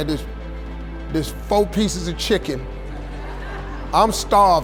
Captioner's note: audience laughing